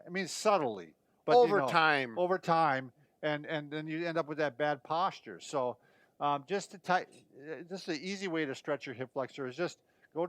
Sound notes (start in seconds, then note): none